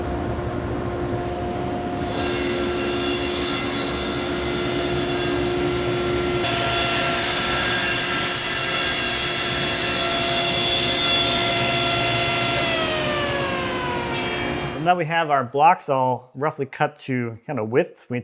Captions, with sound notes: (sawing through wood) (sawing through wood) (shuts saw off) So now we have our blocks all roughly cut to kinda width.